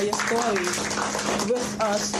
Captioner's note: audience clapping